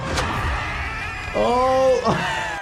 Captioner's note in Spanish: Ronnie grita; El doctor se ríe